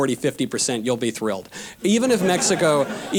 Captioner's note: audience laughter